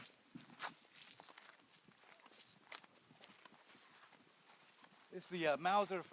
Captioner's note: sounds of walking